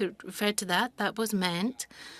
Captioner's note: speaking French